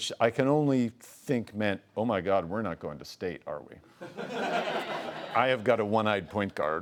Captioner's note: laughing